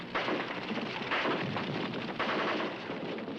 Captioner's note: gunfire